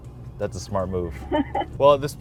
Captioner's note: laughing